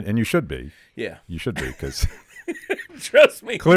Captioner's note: laughing